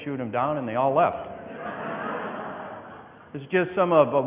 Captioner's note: audience laughing